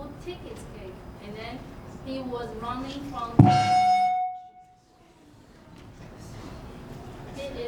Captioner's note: microphone feedback screech